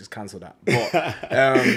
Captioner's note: laughs